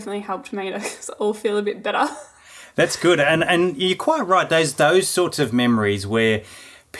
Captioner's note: laughing